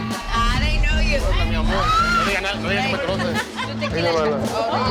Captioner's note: chatter